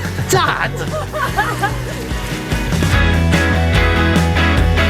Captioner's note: both laugh; energetic music